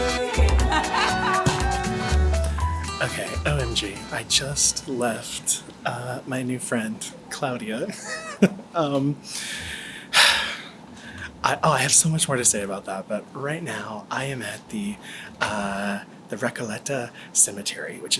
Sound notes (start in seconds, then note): 0.1 laughing; 8.0 laughs; 9.4 sighs